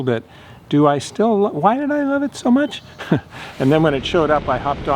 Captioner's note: chuckles